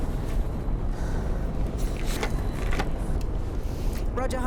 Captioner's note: sighs